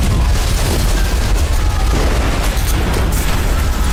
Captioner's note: building explodes